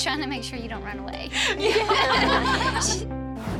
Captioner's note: everyone laughs